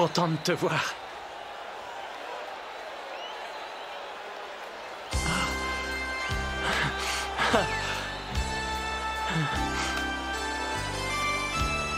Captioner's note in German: beifall